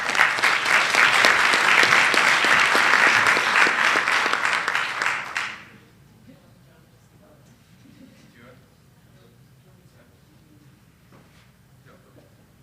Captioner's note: applause